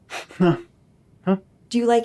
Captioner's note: breathes in